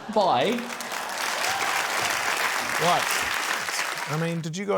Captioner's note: cheering, applause